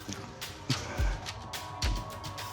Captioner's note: chuckles softly